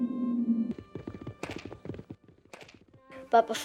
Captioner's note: hooves thudding